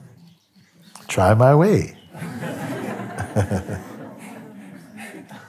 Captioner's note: Lachen